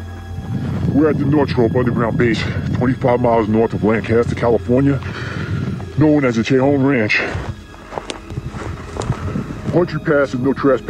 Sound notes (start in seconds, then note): 0.7 deep voice speaking